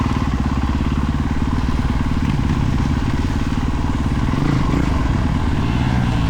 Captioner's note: engine revving